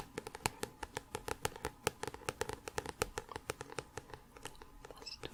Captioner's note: tapping on book